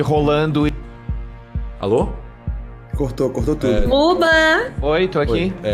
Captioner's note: audio cuts